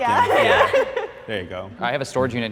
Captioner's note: laughter